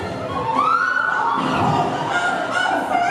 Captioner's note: She falls into the stream - a great splash